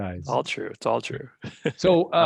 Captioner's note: laughs